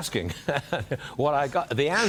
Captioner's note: laughter